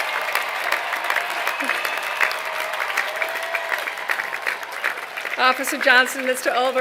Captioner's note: applause